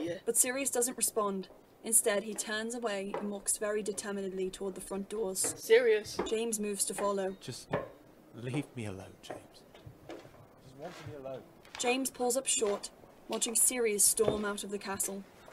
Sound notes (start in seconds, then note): 10.4 slow footsteps receding